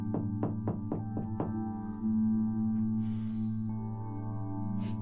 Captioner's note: Malcolm knocks on wall